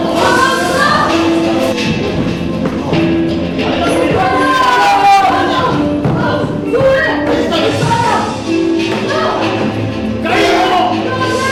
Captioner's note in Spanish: Gritos de pelea